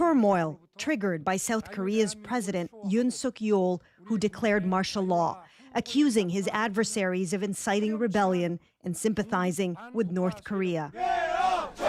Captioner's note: speaking alternate language